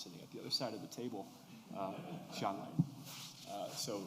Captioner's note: laughter